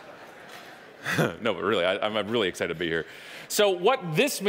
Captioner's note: chuckling